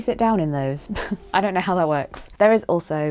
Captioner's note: chuckle